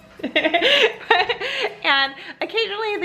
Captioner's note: laughs